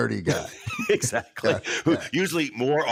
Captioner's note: laughs